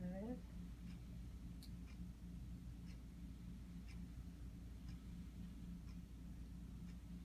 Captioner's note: clock ticking